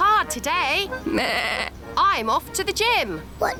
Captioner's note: bleats